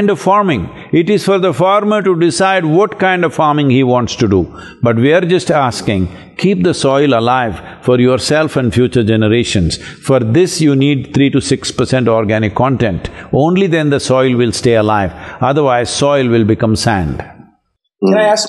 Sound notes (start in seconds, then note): none